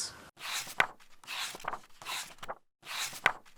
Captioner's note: pages turning